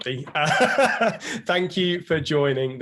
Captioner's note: laughs